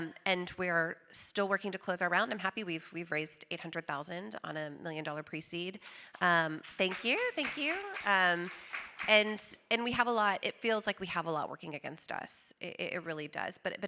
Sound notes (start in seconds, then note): 6.4 audience applauding